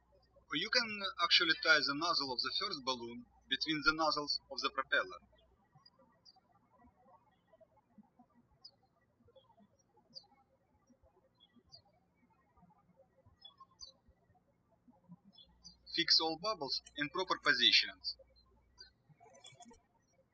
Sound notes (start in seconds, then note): 0.0 birds chirping; 6.3 birds chirping; 20.1 birds chirping